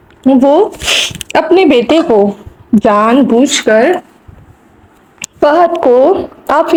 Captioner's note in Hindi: नाक से की जाने वाली आवाज़